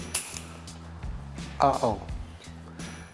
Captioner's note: gun clicks